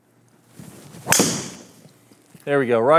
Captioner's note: club whooshes as ball hits wall